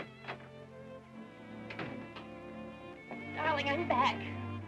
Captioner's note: door clicking